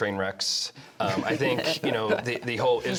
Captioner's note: laughter